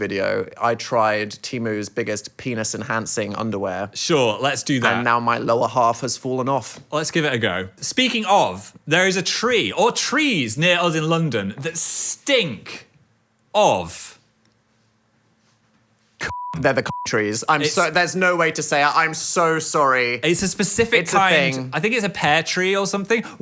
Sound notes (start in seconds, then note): 16.2 beep